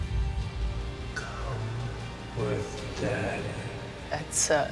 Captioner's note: echoing